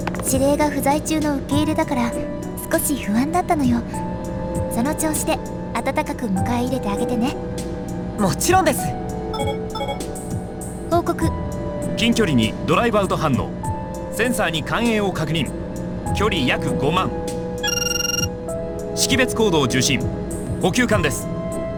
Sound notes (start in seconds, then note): none